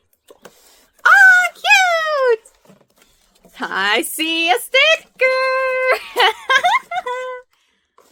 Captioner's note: laughs